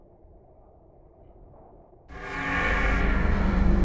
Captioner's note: metal door creaks